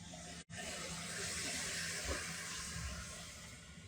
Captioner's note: water rushing